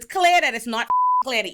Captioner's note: beep